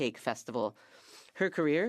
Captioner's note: speaking French